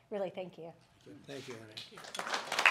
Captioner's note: applause